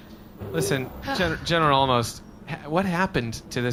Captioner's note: Dar sighs, the door shuts behind C-53